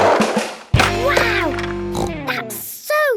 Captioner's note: snorts